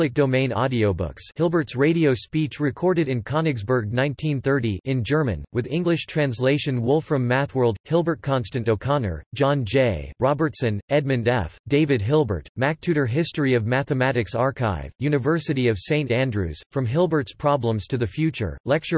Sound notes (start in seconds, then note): 4.3 in German